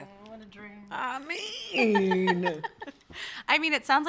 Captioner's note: laughter